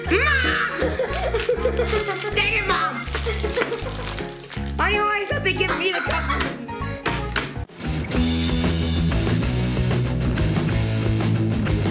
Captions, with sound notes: Mom! (laughing) Dang it, Mom! (laughing) Why do you always have to give me the cup ones? (rock music)